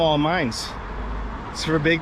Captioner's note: street noise